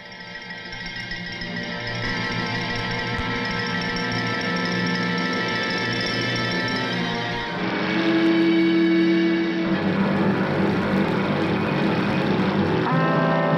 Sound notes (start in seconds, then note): 1.0 tense music; 8.1 boat engine rumbling